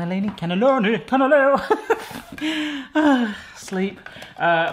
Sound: chuckles

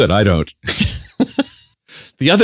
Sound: laughs

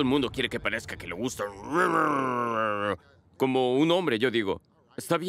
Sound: gruñe

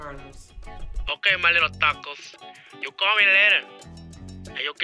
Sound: voiceover

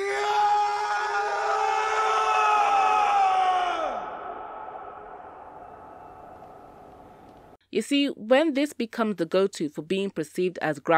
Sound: Superman screams

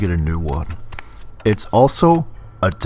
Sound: footsteps

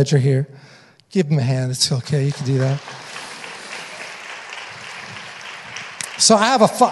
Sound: audience applauding

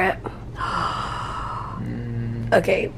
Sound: gasps

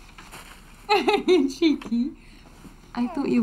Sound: laughs

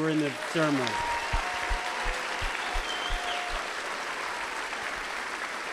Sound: applause

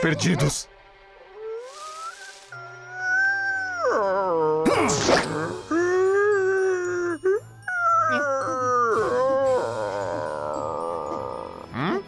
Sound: Ward crying

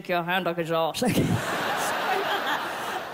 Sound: laughs

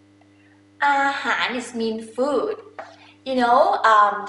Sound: talking in foreign language

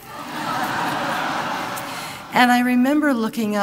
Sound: laughter

